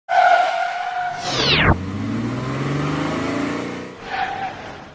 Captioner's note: car screeching tire noise